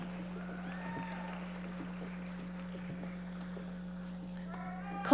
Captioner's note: audience applauding